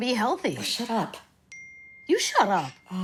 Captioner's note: phone chimes